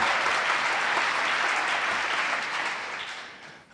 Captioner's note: audience applauding